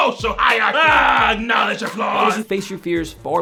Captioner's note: shouting; yelling